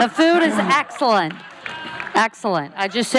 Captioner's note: laughing